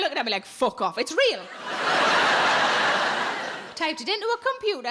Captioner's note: audience laughing